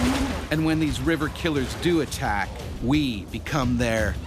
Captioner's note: voiceover